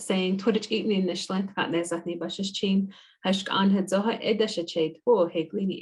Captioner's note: speaking in foreign language